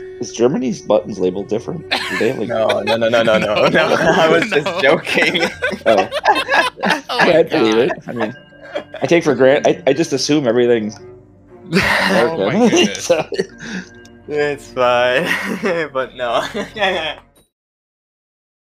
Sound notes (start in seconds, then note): 1.9 laughing; 11.7 chuckles; 12.7 short breathe out laugh; 15.6 chuckles